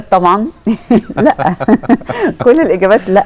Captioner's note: laughter!